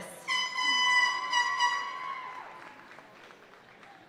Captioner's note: party horn blaring